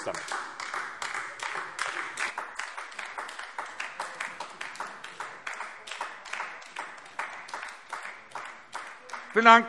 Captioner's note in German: Beifall AfD